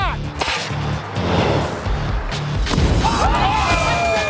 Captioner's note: cheers and applause